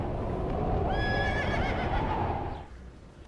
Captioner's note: horse noises